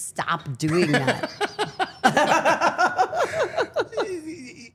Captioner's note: people laughing